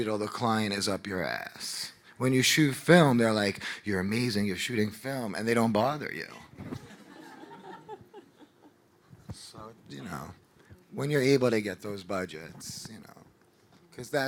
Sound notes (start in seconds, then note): 6.8 audience laughing